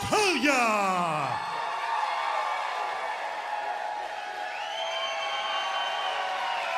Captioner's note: crowd cheering